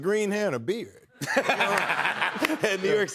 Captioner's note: laughter